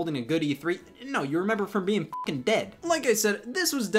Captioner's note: beeps